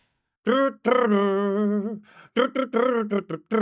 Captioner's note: imitating music